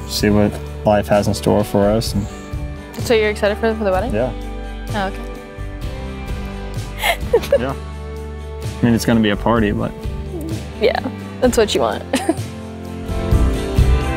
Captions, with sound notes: See what life has in store for us. - So you're excited for the wedding? - Yeah. - Oh, okay. (laughs) - Yeah. I mean, it's gonna be a party, but. - Yeah, that's what you want.